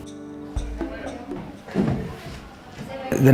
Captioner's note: chatter